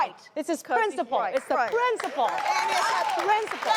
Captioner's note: audience clapping